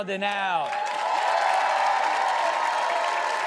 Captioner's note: all cheer